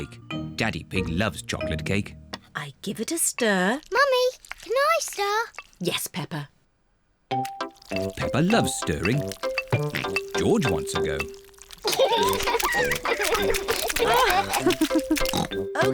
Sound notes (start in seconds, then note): 9.7 oinks; 11.8 both laugh; 13.6 laughs and oinks